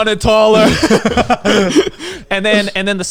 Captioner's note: laughing